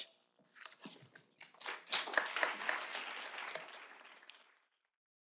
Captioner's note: applause